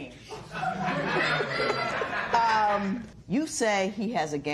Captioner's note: laughter